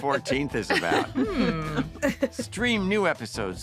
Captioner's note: laughter